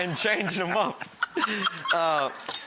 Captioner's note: laughs